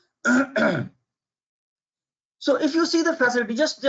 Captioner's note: clears throat